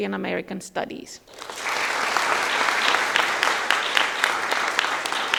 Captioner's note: audience applauding